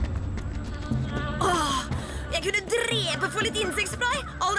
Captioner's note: groans